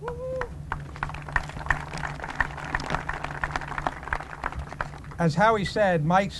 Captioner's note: applause